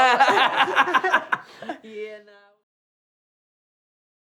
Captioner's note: laughing